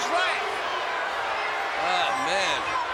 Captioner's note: crowd boos